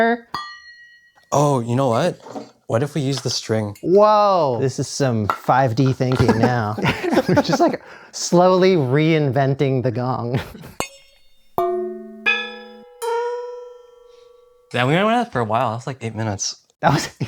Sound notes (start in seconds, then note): 6.2 laughter; 10.7 tapping on a drum